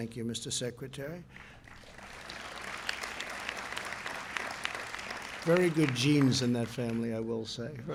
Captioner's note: applause